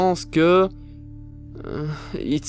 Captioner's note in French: gémissement